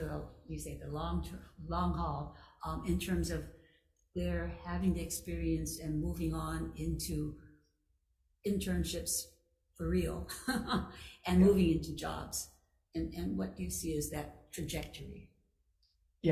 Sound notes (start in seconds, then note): 10.0 chuckling